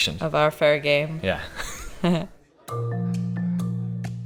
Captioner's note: laughs; soft playful music